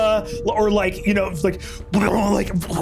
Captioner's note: growls